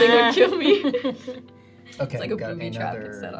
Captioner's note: group laughs